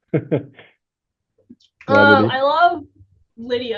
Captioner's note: laughs